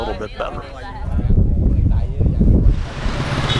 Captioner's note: wind blowing; honking